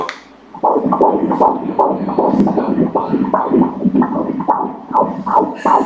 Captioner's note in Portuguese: batimentos cardíacos